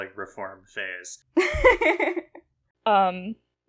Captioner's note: laughs